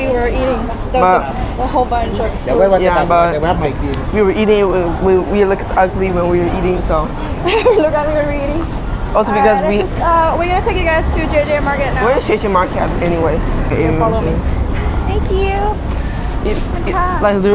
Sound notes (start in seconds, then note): 7.1 laughing